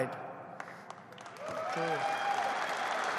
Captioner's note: applause